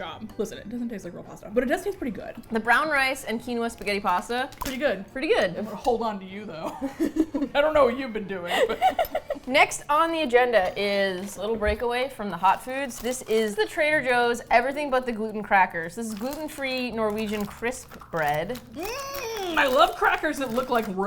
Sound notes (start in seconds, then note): 8.4 laughs